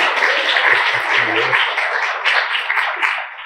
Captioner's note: applause